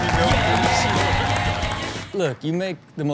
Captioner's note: crowd cheers